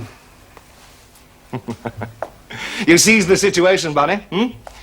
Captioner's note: chuckling